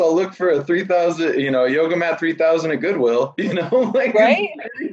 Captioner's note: laughs